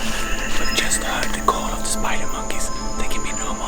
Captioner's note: whispering